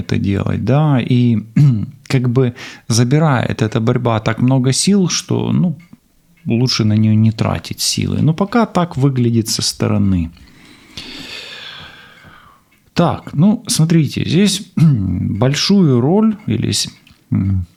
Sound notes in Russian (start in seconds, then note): 1.5 откашливается; 10.4 вздыхает; 14.8 откашливается